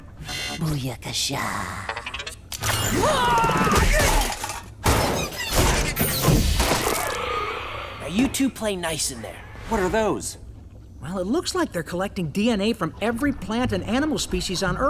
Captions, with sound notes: Booyakasha. [grunting] Now you two play nice in there. What are those? Well, it looks like they're collecting DNA from every plant and animal species on Earth.